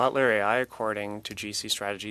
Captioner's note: speaking French